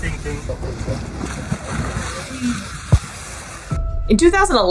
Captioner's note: water splashing noises